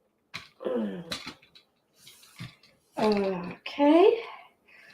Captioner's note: groaning sound